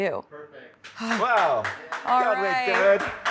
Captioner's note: producers clap